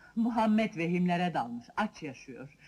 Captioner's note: none